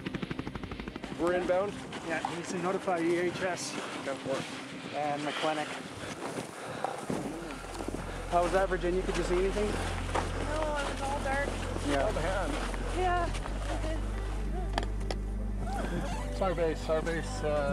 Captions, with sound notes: - [Voiceover] Virginia is lowered to the ground. She will be moved to the awaiting medevac helicopter. (voices on radio)